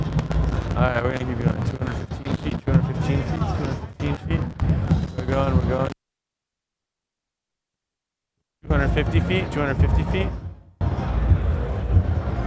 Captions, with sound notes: All right, we're gonna keep going to 215 feet. 215 feet, 215 feet. We're going, we're going. (crackles) 250 feet, 250 feet.